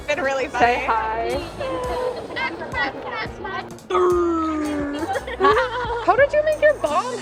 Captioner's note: Balloon boy and mangle sound FX